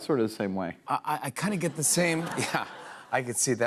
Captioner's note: laughter